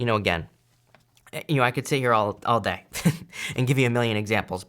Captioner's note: chuckles